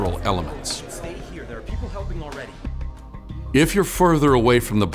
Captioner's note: crowd talking